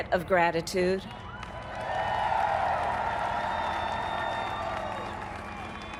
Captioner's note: applaud